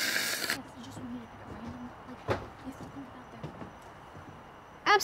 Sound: slurping; Kat and Matilda speaking quietly and urgently

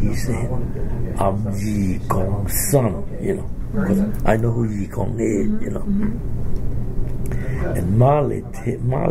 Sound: speaks Chinese; speaks Chinese

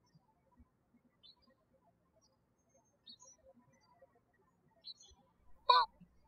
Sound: birds chirping

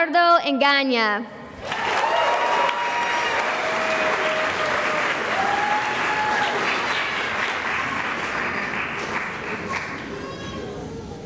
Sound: cheering and applause

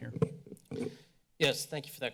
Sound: mic sounds

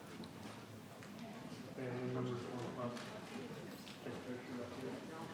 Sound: people chattering

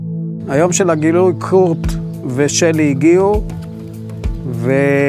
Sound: speaking in foreign language

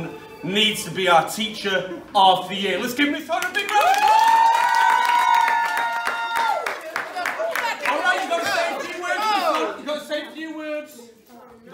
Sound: sounds of cheering and clapping

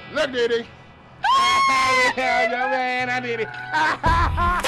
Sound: laughing

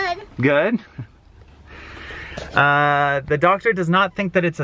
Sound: chuckles

